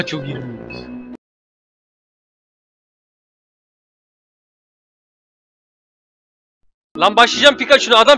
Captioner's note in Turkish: sessizlik